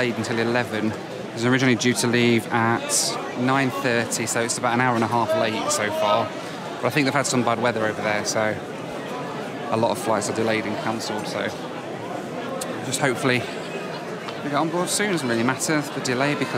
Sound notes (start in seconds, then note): none